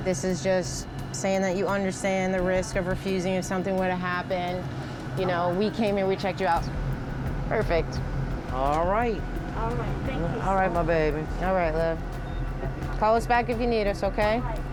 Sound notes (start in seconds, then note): none